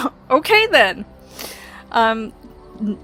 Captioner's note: laughs